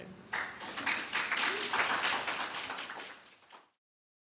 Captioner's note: applause